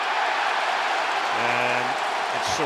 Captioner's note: cheering